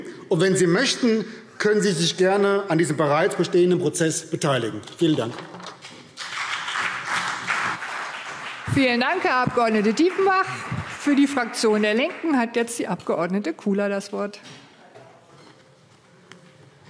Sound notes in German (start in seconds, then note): 6.1 Beifall BÜNDNIS 90/DIE GRÜNEN und vereinzelt CDU